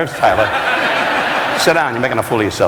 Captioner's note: audience laughing